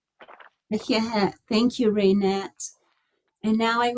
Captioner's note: speaking foreign language